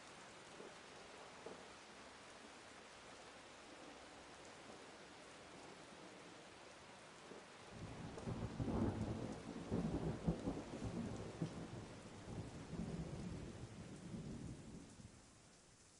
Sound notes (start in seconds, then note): 7.8 thunder rolls